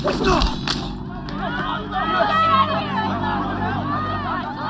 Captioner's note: patrons yelling